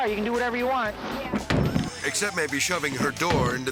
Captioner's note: car door clatters